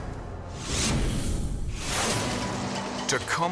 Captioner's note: logo squishes